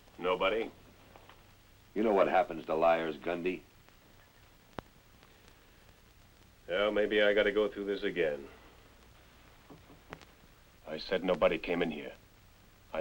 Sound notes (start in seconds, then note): none